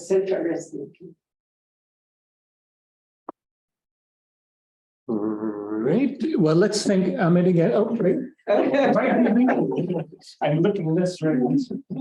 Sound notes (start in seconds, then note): 0.8 audio pops; 0.8 silence; 8.7 audience laughing